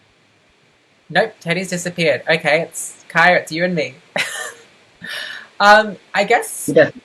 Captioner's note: laughs